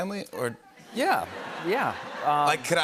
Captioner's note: laughter